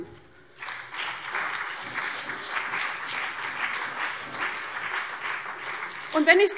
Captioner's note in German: Beifall CDU und BÜNDNIS 90/DIE GRÜNEN